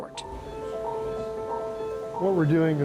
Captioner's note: monitor beeping